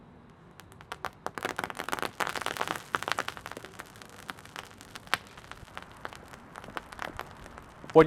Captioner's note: fire cracking